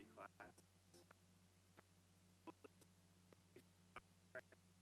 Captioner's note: stuttering audio